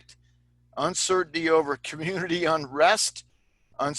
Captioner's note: laughter